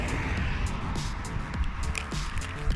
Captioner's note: traffic